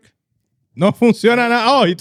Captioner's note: speaking In Foreign Language